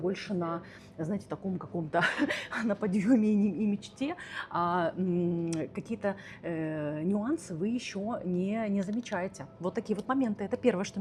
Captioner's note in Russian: смех